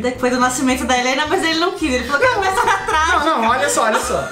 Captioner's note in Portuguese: Risadas